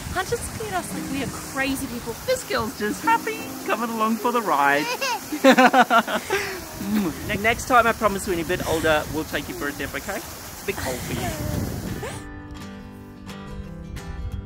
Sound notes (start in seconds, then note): 4.6 laughs; 4.8 giggles; 11.6 gentle music